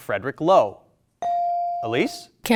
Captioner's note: buzzer dings